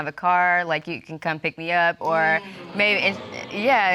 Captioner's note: audience exclaims